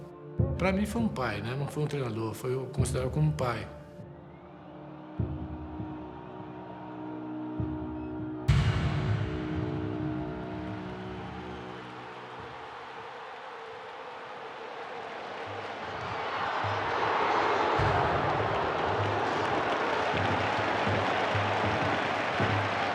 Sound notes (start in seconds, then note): 5.1 dramatic music playing; 14.3 crowd buzzing